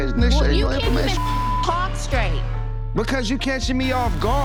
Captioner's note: beep